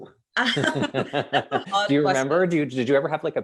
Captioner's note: both laughing